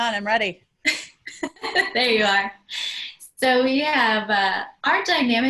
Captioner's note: laugh